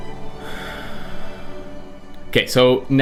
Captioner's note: sighs